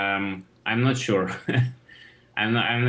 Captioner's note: chuckles